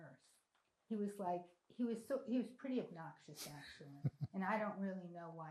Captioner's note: laughing